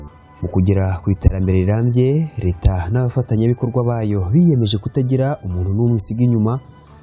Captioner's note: speaking in Kinyarwanda